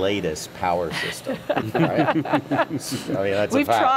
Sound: all laughing

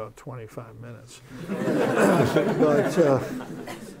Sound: laughter

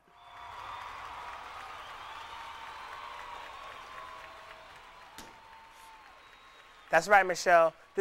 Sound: crowd cheering

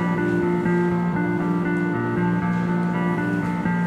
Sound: footsteps

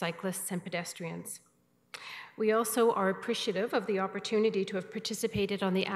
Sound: none

